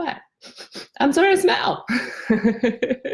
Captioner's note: sniffs; laughs